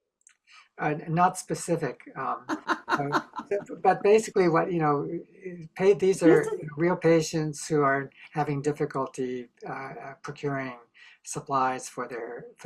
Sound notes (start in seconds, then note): 2.6 laughter